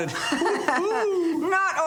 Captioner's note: chuckling